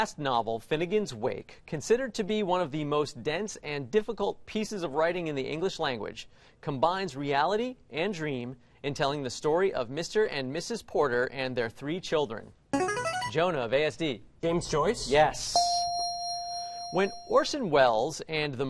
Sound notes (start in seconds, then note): 12.8 buzzer plays; 15.5 ding